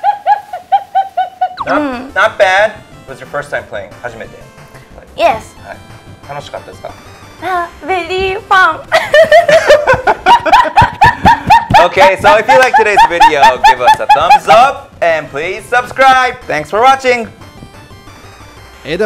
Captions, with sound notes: Not bad. It was your first time playing. (speaking in foreign language) - Yes. (speaking in foreign language) - Very fun. (laughs) - Okay, so if you liked today's video, give us a thumbs up, and please subscribe. Thanks for watching.